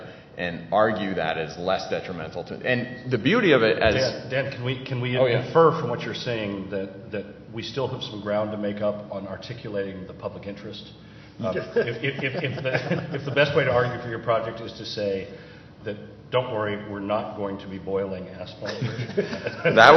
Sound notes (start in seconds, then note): 11.5 laughter